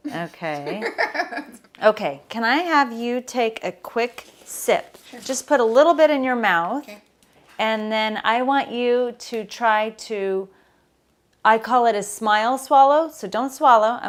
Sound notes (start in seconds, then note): 0.4 laughs